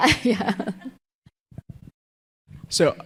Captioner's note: laughing